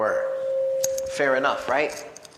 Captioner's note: microphone squealing